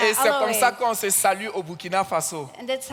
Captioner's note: continues in French